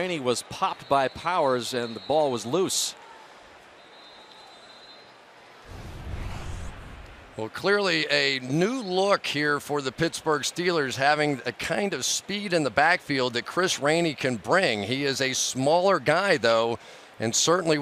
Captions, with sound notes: But Rainey was popped by Powers. And the ball was loose. [whistle] Well, clearly, a new look here for the Pittsburgh Steelers, having a kind of speed in the backfield that Chris Rainey can bring. He is a smaller guy, though.